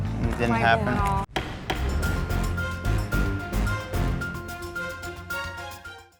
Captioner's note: gavel banging; dramatic music